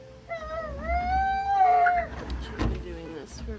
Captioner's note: screaming